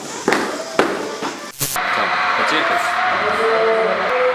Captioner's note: noise from the pavilion